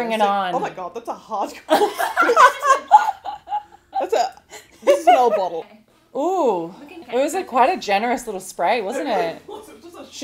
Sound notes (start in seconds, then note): 1.8 host laughs